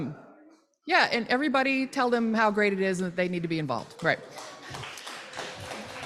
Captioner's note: applause